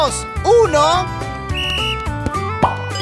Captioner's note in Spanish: Sonido de silbato